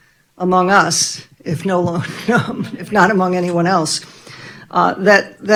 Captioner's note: laughing